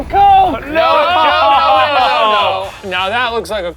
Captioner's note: group yelling out